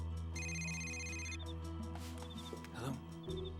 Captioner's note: cell phone rings